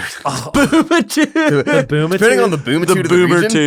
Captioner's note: laughs